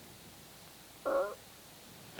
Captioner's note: parrot screeches